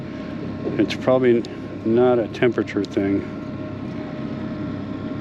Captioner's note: none